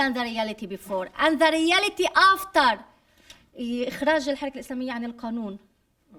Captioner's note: speaking arabic